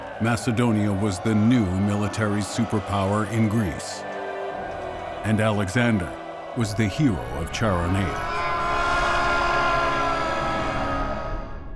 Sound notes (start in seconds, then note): 8.8 screams